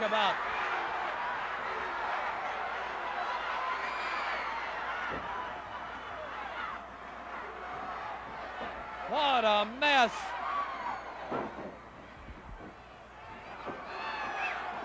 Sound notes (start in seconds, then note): 0.1 crowd yelling; 10.5 crowd yelling